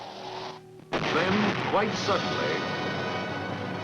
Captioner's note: bombs exploding; dramatic music